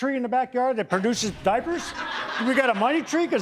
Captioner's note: audience laughing